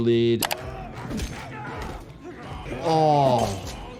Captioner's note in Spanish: Sonido de armas; personajes exclamando